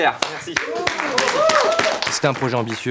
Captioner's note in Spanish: aplausos y gritos